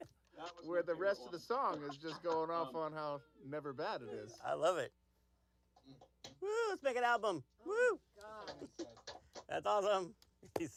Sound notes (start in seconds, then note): 5.4 laughter